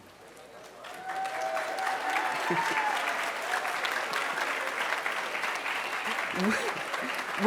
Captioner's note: applause